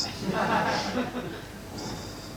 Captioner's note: audience laughing